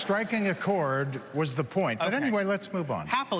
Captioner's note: applause